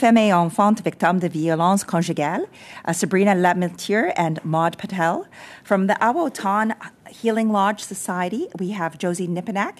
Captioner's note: speaking French